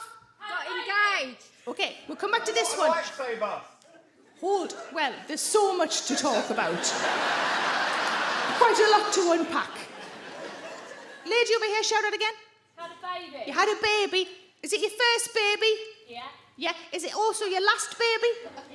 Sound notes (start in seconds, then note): 5.6 audience laughs